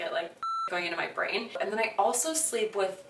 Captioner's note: beep